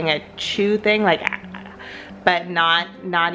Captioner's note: smacking